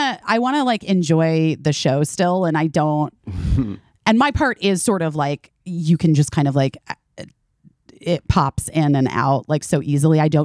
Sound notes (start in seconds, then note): 3.4 chuckling